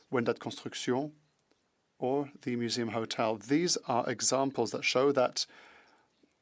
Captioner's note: speaking French